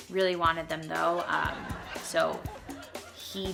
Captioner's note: crowd laughing